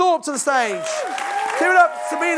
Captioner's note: audience applauds